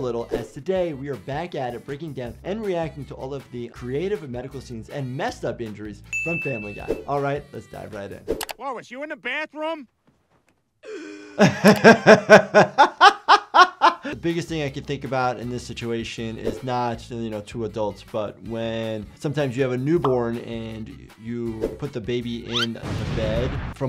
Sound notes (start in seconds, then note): 10.8 Lois gasping; 10.8 laughing